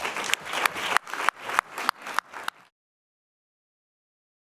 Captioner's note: people clapping